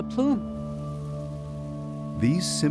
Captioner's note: particles crackling in the air